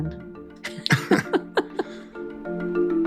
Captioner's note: both chuckle; bright merry music